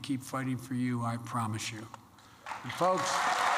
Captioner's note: applause